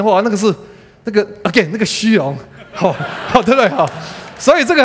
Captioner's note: laughter